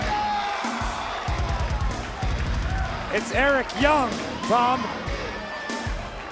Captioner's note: cheers and applause